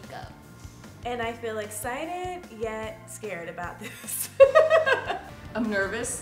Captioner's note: laughs